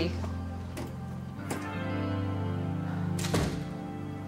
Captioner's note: door thuds